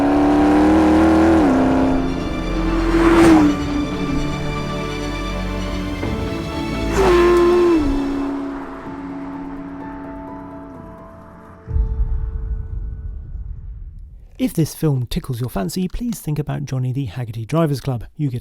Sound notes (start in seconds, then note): 2.2 dramatic music continues; 7.2 car rumbling